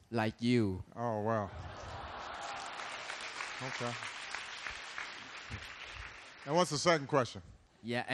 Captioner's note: laughter and applause